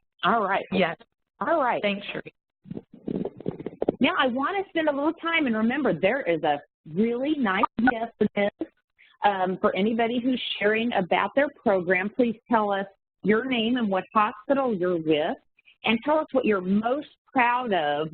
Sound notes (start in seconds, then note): 7.6 audio warps